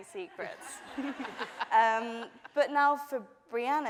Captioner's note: laughing